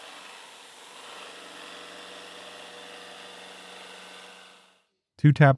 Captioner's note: machine whirring continues